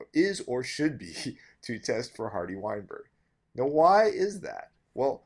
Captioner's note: laugh